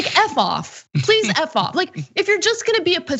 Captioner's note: laugh